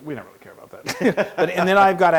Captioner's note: laugh